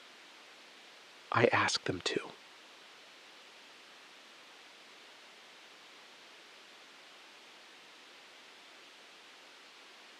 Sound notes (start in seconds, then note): 1.3 SILENCE — 8 sec